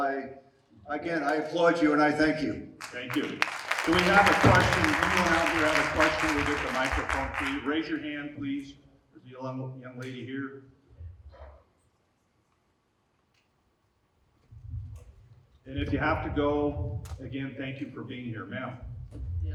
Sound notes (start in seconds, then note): 4.3 audience applauding